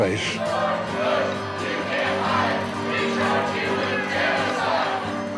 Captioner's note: protestors chanting